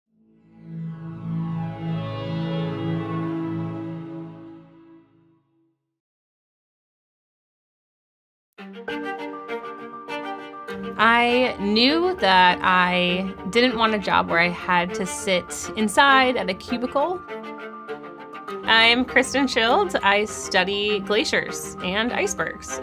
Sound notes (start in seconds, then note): 0.3 synth drone sound effect; 8.9 adventurous music